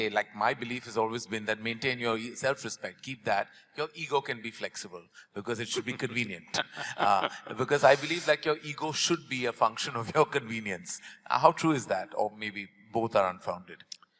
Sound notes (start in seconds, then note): 6.5 Sadhguru laughs; 10.9 laughs